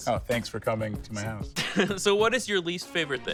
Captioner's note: laughs